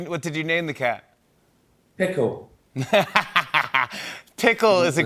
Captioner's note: laughs